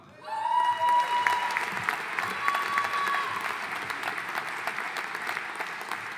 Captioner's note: audience cheering and applauding